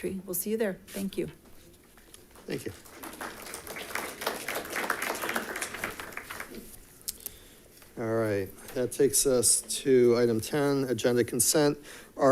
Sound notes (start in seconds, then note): 2.1 audience claps